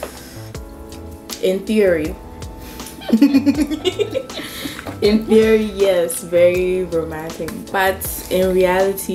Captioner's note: both laugh